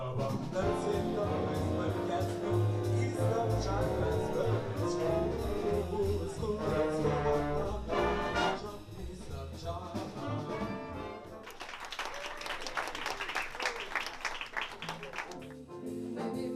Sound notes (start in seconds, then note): 11.4 cheering; 11.4 clapping; 14.4 classy jazz music